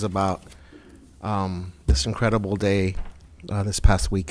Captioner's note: none